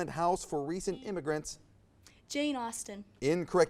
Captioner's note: buzzer buzzes